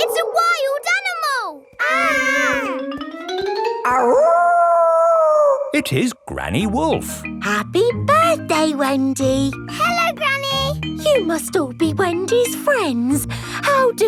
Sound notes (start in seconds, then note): 1.7 kids yelling; 3.9 howling